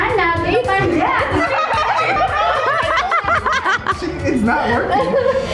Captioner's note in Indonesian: Ketawa